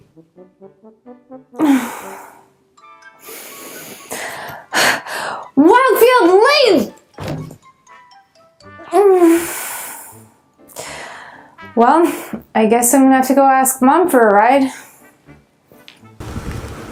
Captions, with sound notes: [Sigh] ...Wild Field Lane! [Groan] Well, I guess I’ll have to go ask Mum for a ride.